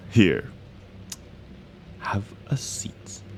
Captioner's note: SFX: Them moving through the mansion